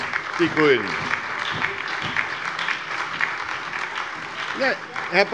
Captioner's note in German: Beifall bei der SPD, der LINKEN und der FDP